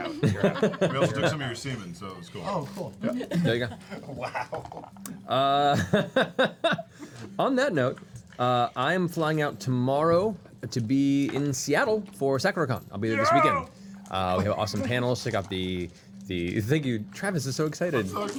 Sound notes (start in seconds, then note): 3.1 laughs